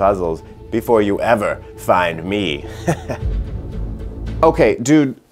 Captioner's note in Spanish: Risas